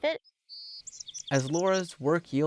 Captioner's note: birds chirping